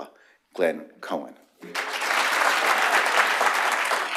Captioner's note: applause